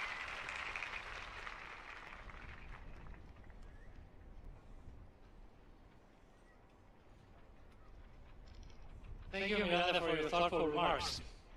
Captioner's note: applause